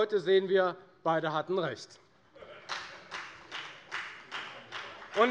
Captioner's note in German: Beifall bei der FDP